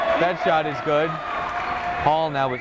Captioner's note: clapping